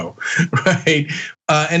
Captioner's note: laugh